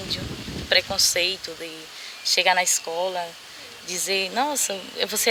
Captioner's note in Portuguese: Canto de pássaros